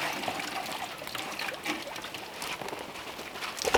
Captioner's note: water dripping